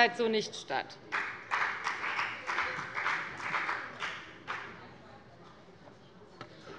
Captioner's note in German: Beifall bei der FDP